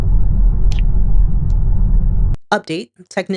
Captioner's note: wind blowing